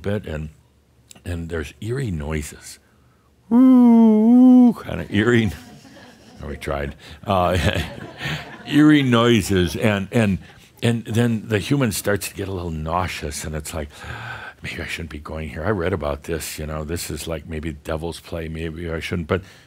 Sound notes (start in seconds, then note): 5.5 a few chuckles; 7.7 more chuckles